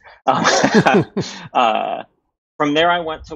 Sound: laughter

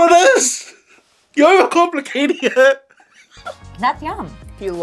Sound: laughs

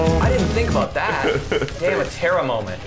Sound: laughing

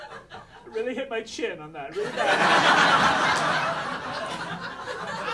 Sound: audience laughing

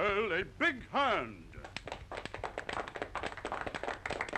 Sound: applause

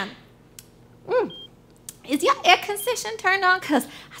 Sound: swallows

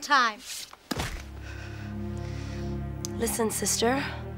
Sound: boot thuds against fingers

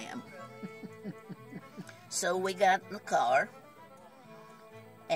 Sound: chuckles

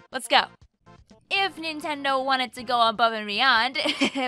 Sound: laughs

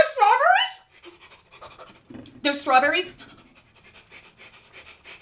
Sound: disgusting heavy nose breathing; intense heavy breathing

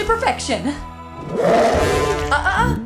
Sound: roar

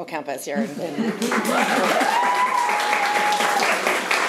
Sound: room applauds

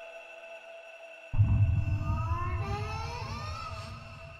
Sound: long drawn out ghost confusion noises

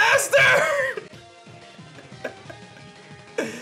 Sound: chuckles

